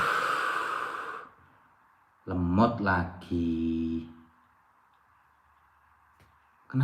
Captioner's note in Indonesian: menghela napas